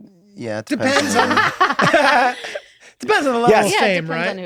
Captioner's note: laughter